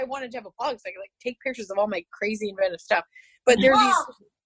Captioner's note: child yelling, “mom”